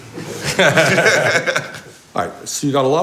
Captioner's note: laughing